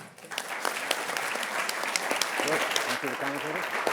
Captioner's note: attendees applauding